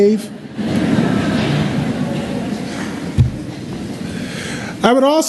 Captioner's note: laugther